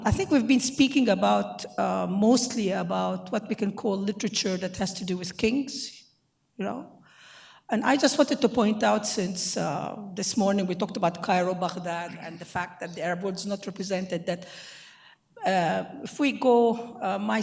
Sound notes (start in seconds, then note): 12.6 speaking in foreign language